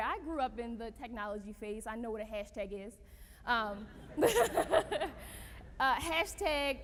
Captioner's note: laughter